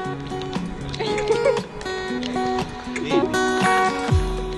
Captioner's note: laughs